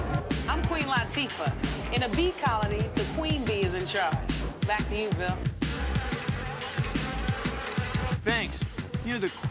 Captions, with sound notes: I'M QUEEN LATIFAH. IN A BEE COLONY, THE QUEEN BEE IS IN CHARGE. BACK TO YOU, BILL. ( buzzing ) THANKS.